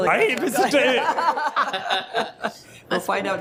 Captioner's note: group laughing